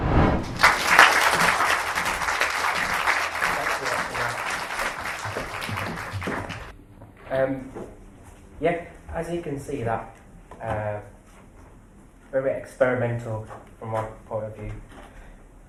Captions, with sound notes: [Applause] As you can see that, very experimental from my point of view